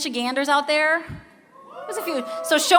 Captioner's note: cheering